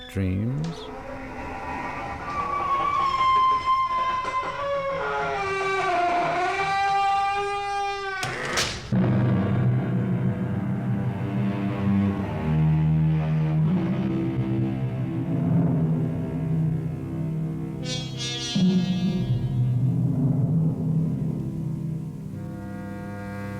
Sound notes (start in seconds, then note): 3.6 door creaking; 11.0 door closes; 13.0 dramatic music playing